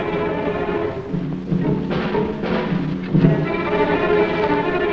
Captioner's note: bomb explodes